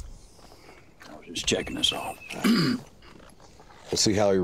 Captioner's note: clears throat